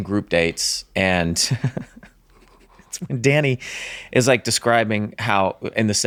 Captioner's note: laughs